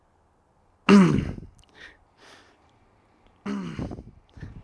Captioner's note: breathing